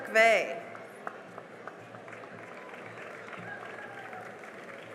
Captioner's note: cheering and applause